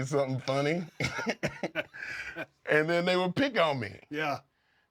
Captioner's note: laugh